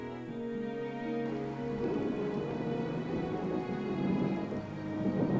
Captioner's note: thunder crashing